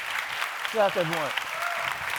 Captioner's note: applause